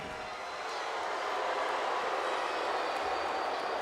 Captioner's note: crowd booing